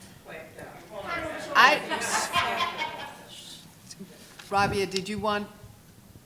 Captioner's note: laughing